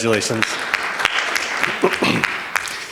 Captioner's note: applause